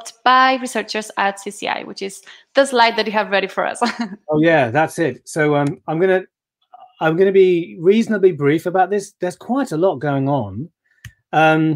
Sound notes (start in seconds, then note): 3.8 chuckling